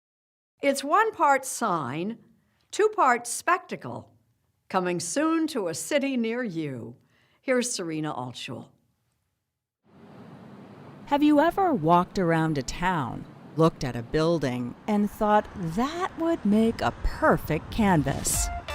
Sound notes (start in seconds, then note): 9.9 street sounds; 17.4 upbeat music